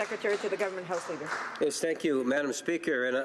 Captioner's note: applause